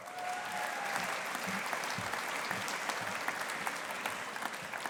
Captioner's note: audience applauding